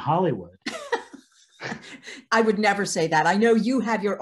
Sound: laughing

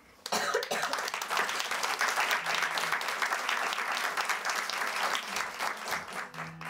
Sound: applause

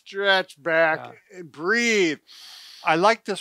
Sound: inhales deeply

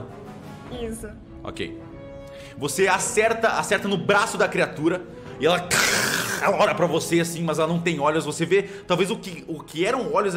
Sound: growls

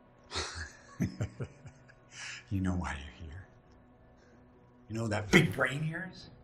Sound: laughs

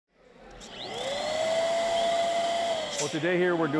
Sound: air pump humming

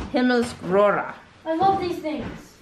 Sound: speaking in foreign language

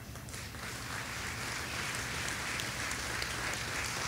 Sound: audience applauding

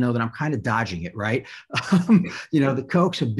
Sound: laughter

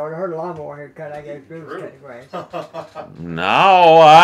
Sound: laughs

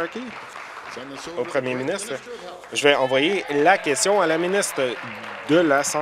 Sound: applause

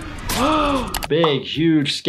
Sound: person gasps

